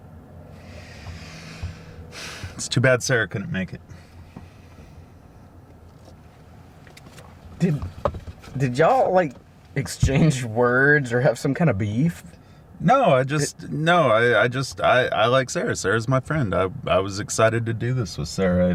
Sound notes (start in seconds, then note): 0.6 sighs